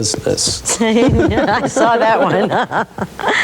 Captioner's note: laughing